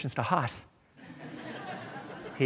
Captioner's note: laughter